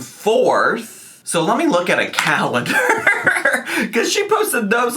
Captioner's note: laughs